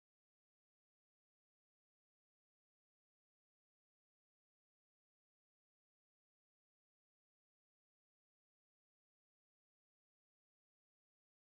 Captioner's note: blizzard snow